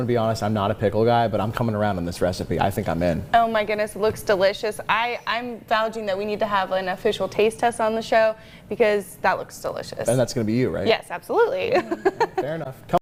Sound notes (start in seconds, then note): 11.8 chuckles